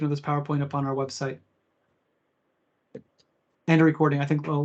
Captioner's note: no audio